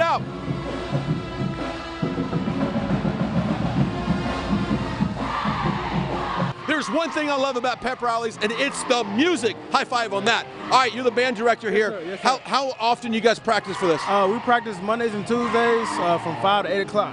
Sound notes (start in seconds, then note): 3.8 pep band playing; 5.6 crowd cheering